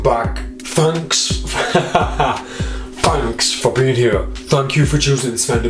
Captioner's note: laughs